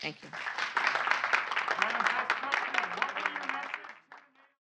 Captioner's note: applause